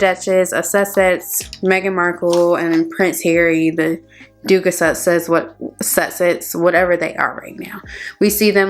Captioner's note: stammers